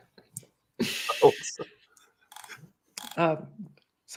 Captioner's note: laughs